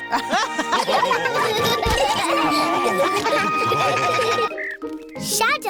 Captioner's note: all laugh